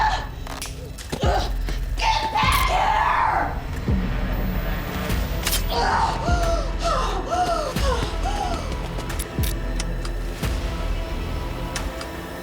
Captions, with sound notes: (necklace snaps) - Get back here! (tense dramatic music) (Madam Maze breathing heavily) (tense dramatic music)